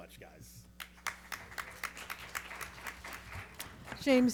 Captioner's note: audience and panelists clapping